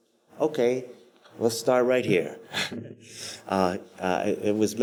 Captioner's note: chuckles